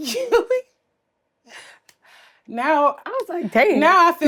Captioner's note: laughs